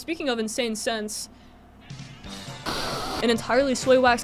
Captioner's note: huffs candle